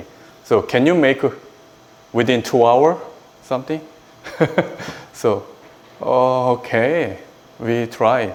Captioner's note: laughs